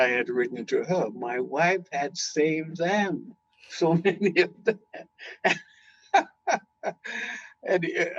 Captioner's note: laughing